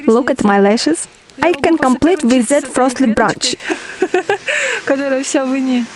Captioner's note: laugh